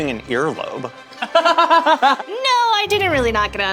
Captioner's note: laughs